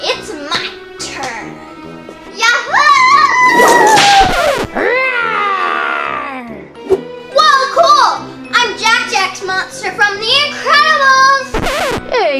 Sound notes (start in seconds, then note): 3.5 record scratching; 3.5 whip cracking; 4.9 growling; 11.5 record scratching